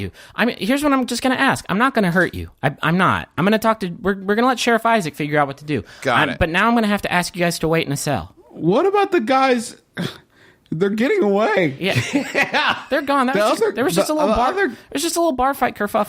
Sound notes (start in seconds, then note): 10.0 sigh; 11.8 laughs